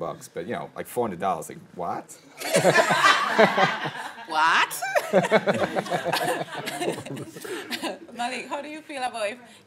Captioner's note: chuckles